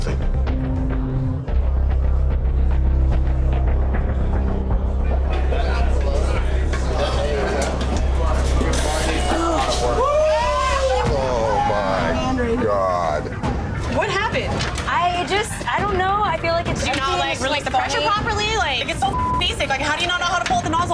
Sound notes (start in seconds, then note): 0.2 intense music; 5.5 chatter